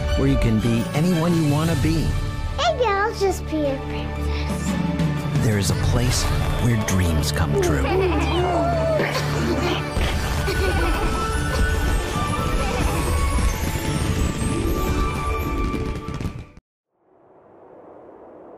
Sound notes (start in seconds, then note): 7.6 laughter